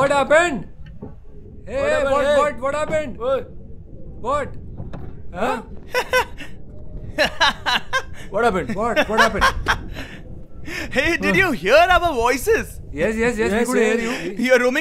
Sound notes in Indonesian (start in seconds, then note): 5.8 Tertawa